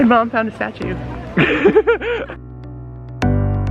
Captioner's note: lols out loudly; bright pop music